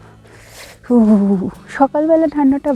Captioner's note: shivering